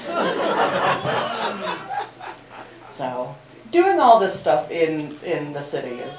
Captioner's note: laughter